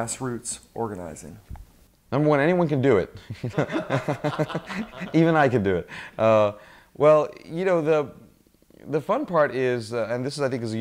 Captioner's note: laugh